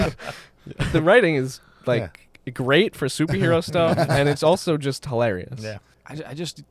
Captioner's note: laughter